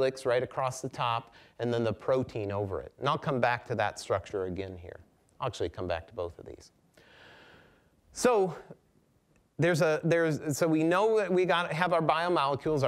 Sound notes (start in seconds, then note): none